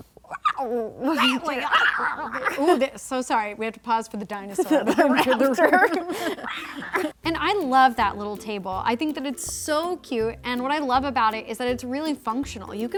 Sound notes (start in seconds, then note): 0.3 high-pitched growls; 4.5 laughing